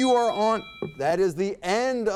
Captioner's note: bell ding